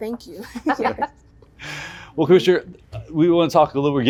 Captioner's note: laughs